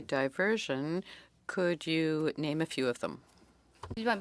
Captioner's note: speaking French